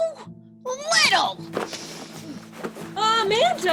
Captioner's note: commotion